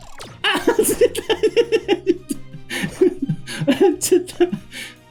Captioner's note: laughs